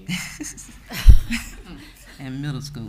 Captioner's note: speakers laughing